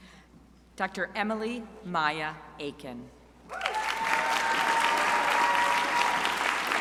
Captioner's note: crowd applauding